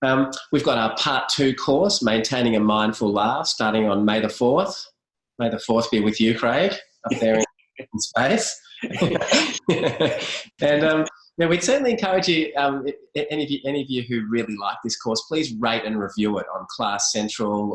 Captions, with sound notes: We've got our part two course: ‘Maintaining a Mindful Life” starting on May the 4th. May the fourth be with you Craig! Up there in space. [BOTH LAUGH] And we'd certainly encourage you, any of you who really like this course, please rate and review it, on Class-Central,